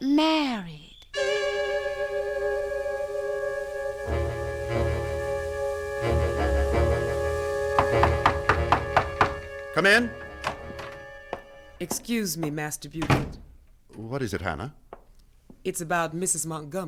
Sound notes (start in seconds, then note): 7.7 knock on door; 11.9 door opens; 12.9 door closes